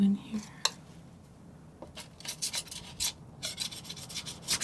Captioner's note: scratching